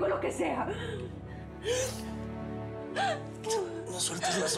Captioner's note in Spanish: sollozos